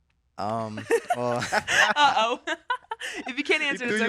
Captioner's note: laughing